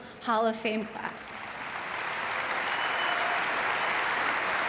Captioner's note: audience clapping